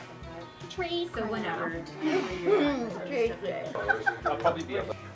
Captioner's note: impersonating Larry Keeley; giggling; laughter